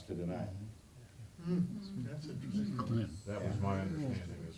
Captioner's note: audience chatter